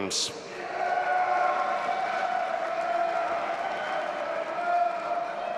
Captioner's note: audience applauding and cheering